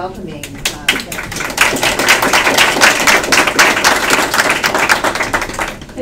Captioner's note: applause